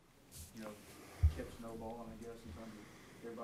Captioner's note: voiceover